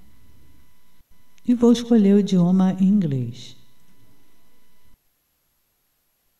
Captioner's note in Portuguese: Inglês